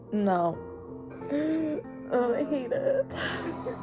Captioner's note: gasp